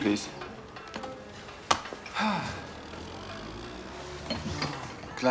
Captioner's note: sighing